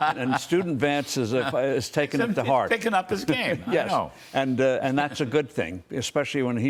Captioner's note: laughter